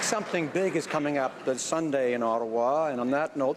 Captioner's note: some Applause